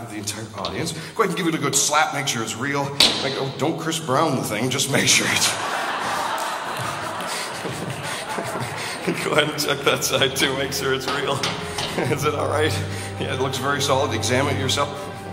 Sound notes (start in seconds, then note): 3.0 loud bang; 10.7 taps metal